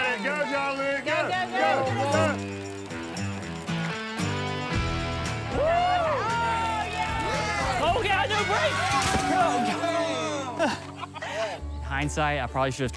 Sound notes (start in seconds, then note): 5.3 cheering; 9.1 overlapping cheers and groans